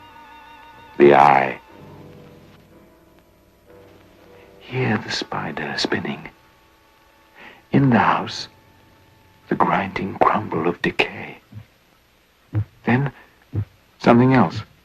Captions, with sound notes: THE EYE. (SUSPENSEFUL MUSIC) HEAR THE SPIDER SPINNING. IN THE HOUSE, THE GRINDING CRUMBLE OF DECAY. (BEATING SOUND) THEN SOMETHING ELSE.